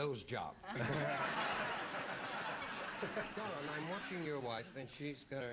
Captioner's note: laughter